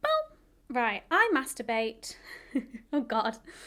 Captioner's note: chuckles